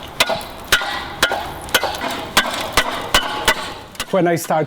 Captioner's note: metal shovel chipping away ice